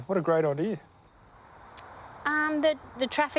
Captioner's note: noise of distant traffic